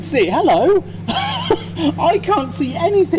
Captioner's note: laughs